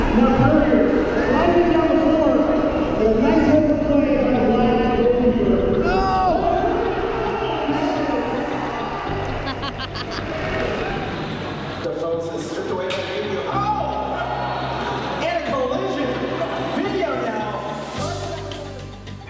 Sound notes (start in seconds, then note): 8.5 cheering